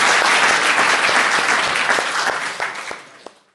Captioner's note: off mic